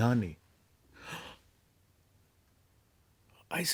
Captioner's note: gasps